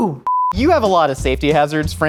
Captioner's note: beep